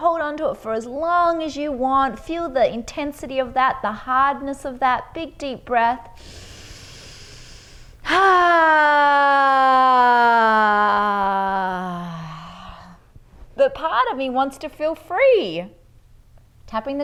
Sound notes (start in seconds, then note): 6.1 inhales deeply; 8.1 exhales deeply